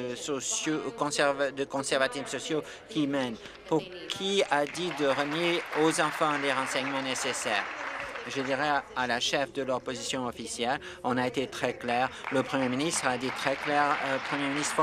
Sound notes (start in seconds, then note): 7.1 applause